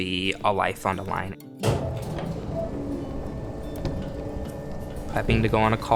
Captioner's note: garage door opens